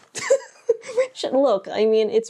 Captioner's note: laughs